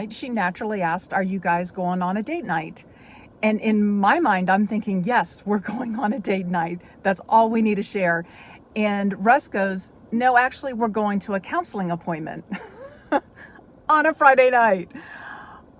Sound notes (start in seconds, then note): 12.5 chuckles